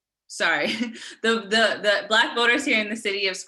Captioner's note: giggling